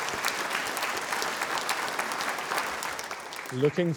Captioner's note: applause